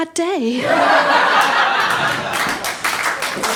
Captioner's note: laughter; audience applause